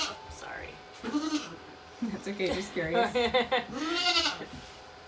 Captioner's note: Big Maybel bleat; Maybel bleating